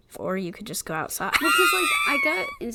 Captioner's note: wheeze laughs